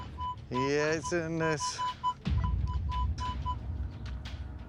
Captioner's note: beeping